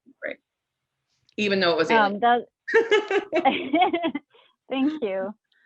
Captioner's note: chuckles